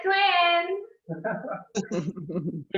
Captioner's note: laughter from many